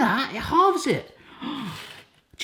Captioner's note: gasps